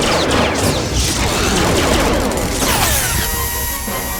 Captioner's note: gun blasting; electric buzzing; gun blasting